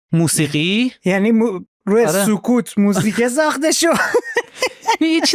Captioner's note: laughs